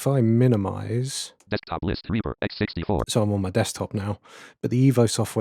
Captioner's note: automated voice